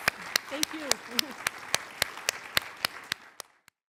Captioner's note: applause